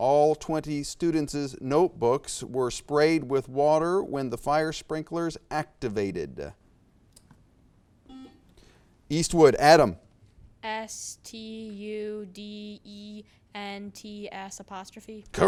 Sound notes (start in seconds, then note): 7.6 buzzer beeps beeps